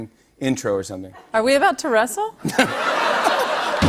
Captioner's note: laughter